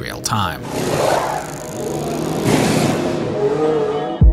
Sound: machine whirring

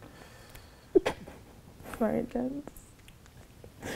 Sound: giggles

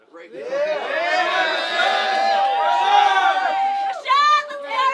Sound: crowd cheers

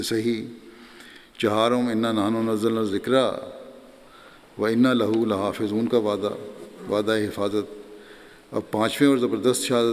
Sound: Arabic

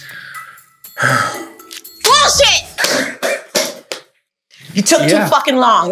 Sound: sighs

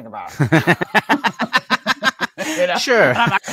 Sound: laughs

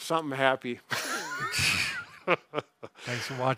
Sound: chuckling

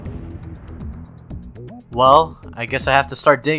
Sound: explosions

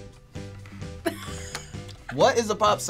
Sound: React laughs

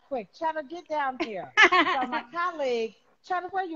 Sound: laughing

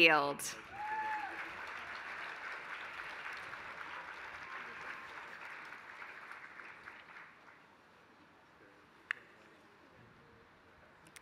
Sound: applause

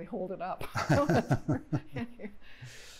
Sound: laughter

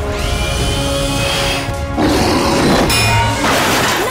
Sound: roaring

